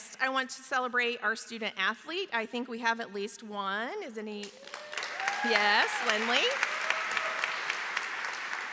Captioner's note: applause